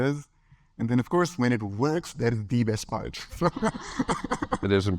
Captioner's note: laughs